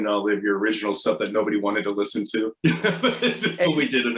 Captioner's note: laughs